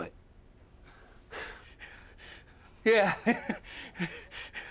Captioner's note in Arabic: ضحك عصبي